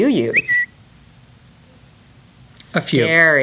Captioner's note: whistle